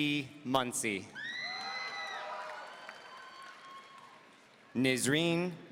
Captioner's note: audience cheering